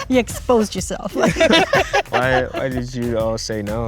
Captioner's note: all laugh